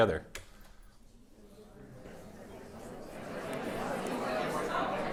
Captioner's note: indistinct chatters